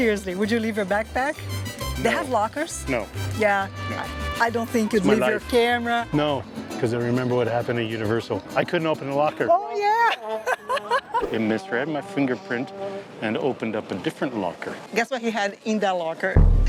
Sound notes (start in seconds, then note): 9.8 laughs